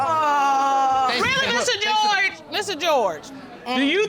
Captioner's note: sarcastically